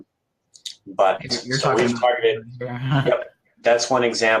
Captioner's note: audio skips